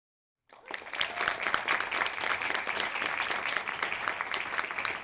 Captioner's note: applause